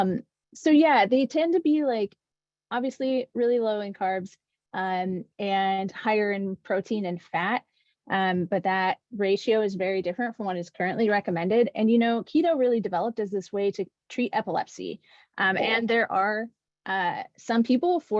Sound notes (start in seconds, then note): none